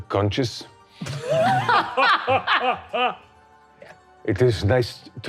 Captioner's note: all laughing